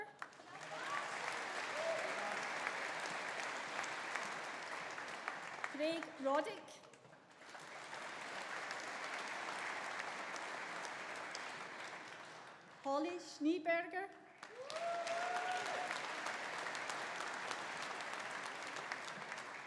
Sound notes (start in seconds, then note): 0.1 audience applauding; 0.4 audience cheering; 7.2 audience applauding; 14.3 audience applauding; 14.5 audience cheering